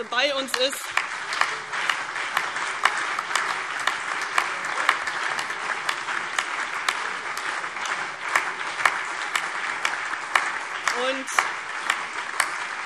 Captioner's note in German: Beifall CDU, BÜNDNIS 90/DIE GRÜNEN, vereinzelt SPD und Freie Demokraten